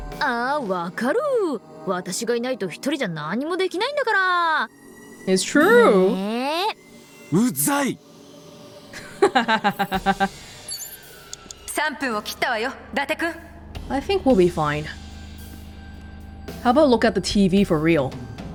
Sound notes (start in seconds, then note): 9.0 chuckles